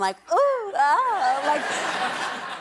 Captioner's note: laughter